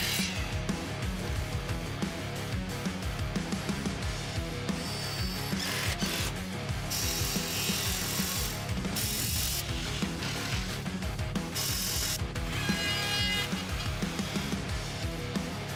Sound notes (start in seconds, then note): 0.2 rock music; 0.2 saw machines whirring; 4.6 drills whirring; 6.8 saw machines whirring; 12.9 drill whirring